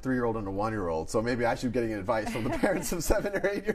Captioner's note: laughs